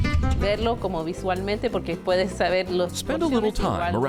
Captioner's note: interviewee speaking in Spanish